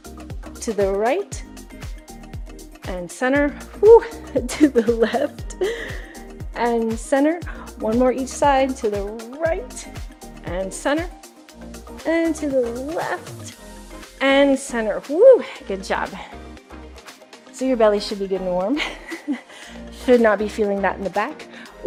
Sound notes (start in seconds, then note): 3.9 exhaling; 18.8 chuckling